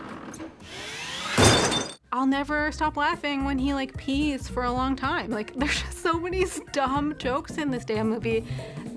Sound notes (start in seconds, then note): 1.4 metal thuds